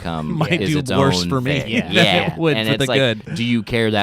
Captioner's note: chuckles